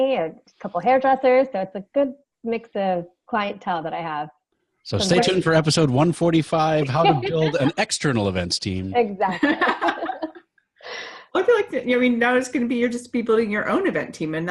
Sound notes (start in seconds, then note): 9.0 laughing